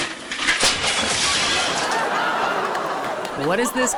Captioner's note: audience laughs